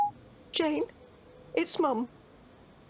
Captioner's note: phone